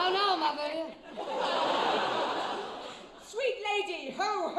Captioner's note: audience laughs